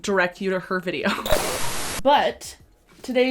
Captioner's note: TV static buzzing